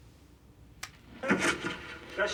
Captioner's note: door opening